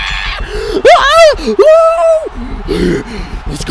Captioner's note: yelling slowly rises in cadence; sharp intake of breath; guttural grunt